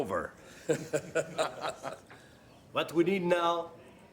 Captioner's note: cabinet members laughing